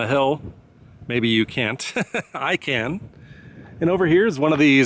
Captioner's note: chuckles